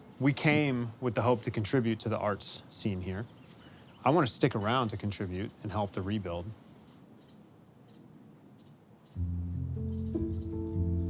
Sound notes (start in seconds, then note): 7.7 birds chirping